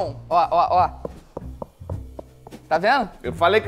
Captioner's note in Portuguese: som de oco